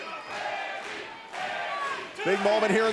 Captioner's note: crowd cheering